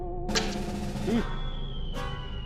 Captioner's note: snap; object falling